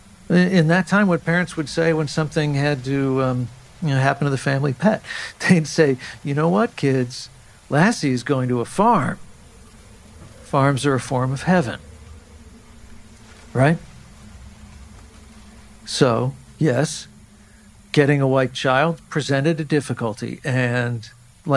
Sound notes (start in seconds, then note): 9.4 winds blowing